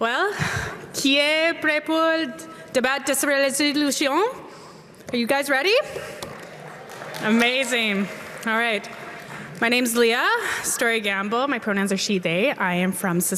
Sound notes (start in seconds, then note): 2.1 applause